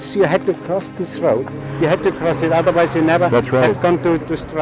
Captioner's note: non-english